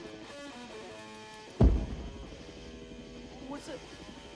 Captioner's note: distant explosion